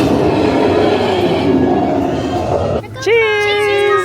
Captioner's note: dinosaurs roaring